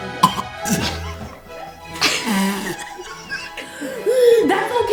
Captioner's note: laughter